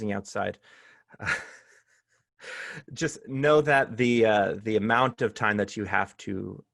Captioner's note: laughter